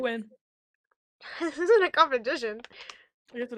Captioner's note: laughs